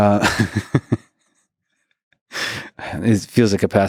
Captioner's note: Lex laughing